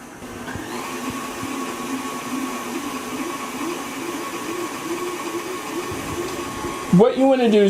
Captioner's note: mixing sounds